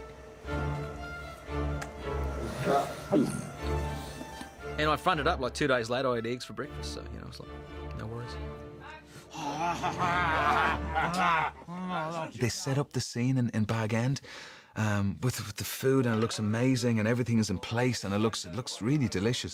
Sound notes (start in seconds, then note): 9.3 all grunting